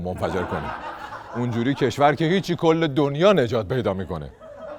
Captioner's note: laughter